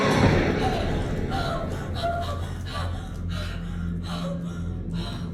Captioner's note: gasping